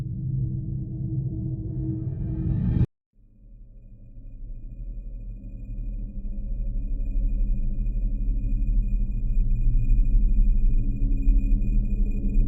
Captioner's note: eerie sound